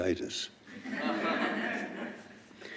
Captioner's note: laughter